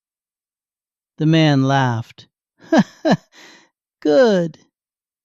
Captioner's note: laughs